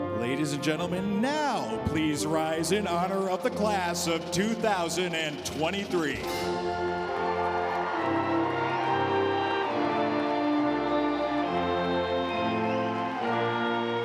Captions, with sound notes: Ladies and gentlemen now, please rise in honor of the class of 2023. (audience applauding)